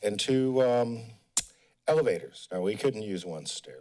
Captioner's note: smacks lips